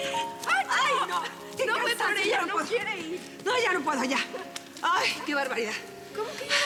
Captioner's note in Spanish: exclamaciones